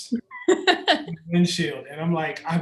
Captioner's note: laughs